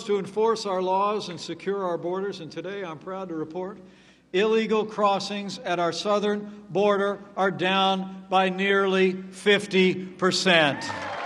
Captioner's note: applause